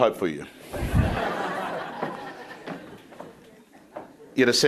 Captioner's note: crowd laughing